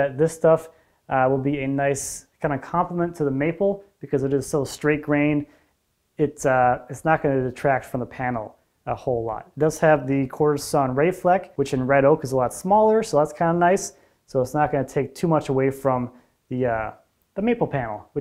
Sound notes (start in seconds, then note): none